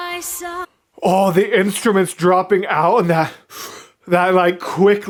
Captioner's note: inhale sound